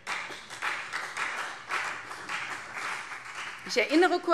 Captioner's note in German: Beifall CDU